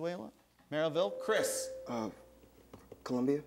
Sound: ding

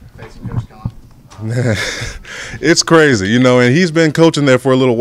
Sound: laughs

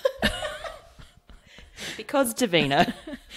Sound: laughs

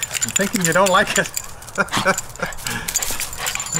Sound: laughs

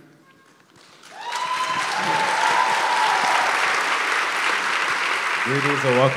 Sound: applause

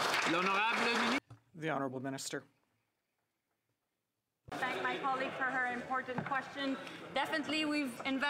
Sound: some Applause

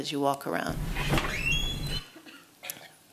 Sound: door creaks

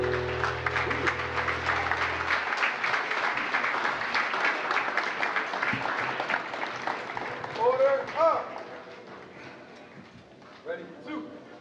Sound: applause

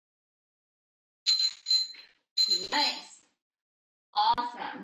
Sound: alarm rings

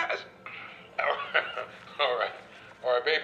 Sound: laughs

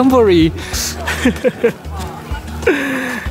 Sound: chuckles

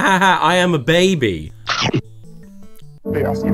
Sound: chomping sound

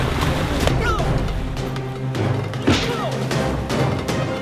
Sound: grunting

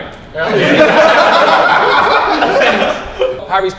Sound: group laughs

